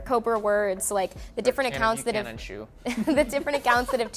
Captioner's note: laughter